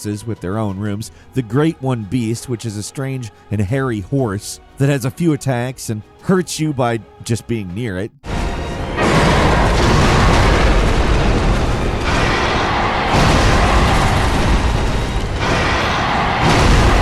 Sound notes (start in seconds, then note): 8.5 dramatic music; 10.4 Great One Beast screeching